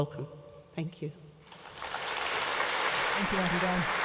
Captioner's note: applause